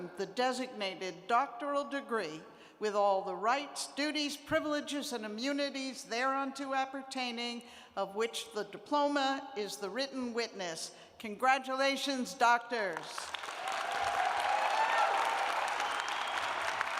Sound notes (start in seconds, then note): 13.2 cheers and applause